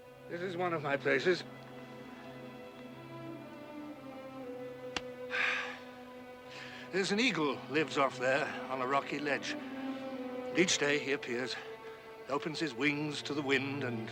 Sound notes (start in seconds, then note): 5.3 sighing